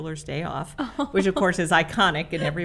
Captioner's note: host laughs